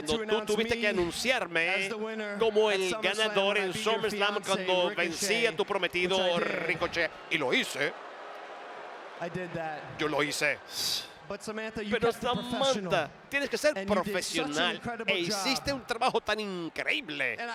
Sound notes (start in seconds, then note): 8.0 applause